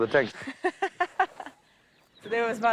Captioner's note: laughing